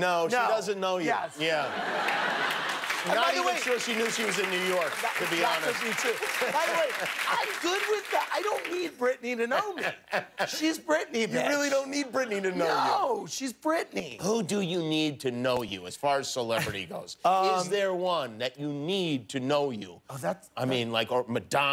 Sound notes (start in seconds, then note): 1.6 laughter; 6.4 applause